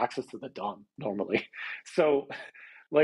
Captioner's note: chuckles